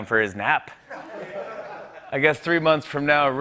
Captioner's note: laughter